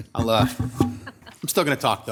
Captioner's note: council members laughing